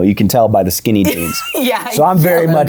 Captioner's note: laughs